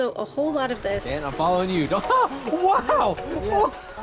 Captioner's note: laughing